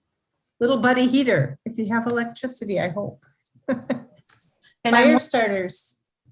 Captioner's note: laughs